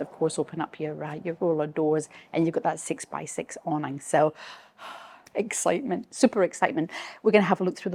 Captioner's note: exhales